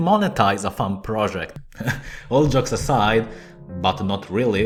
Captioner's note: chuckles